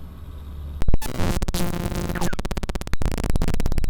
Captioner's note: static hissing